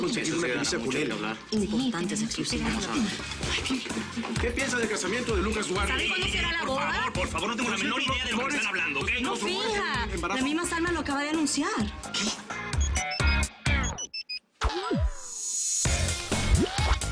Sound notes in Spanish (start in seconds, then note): 12.8 Suena celular